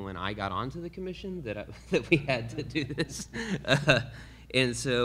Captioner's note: laughs